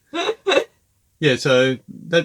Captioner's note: laughing